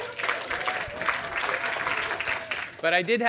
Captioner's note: audience applauding